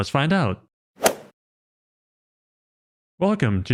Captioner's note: golf swing sound effect